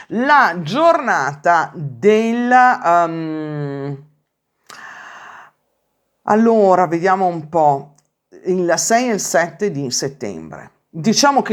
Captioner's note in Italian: sospiri